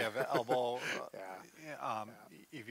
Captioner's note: chuckles